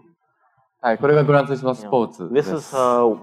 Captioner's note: speaking japanese